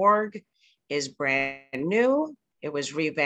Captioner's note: slight audio distortion